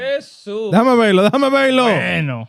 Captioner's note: non-english Speech